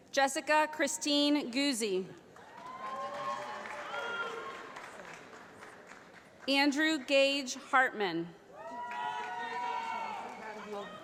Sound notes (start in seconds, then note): 2.3 applause; 8.5 cheering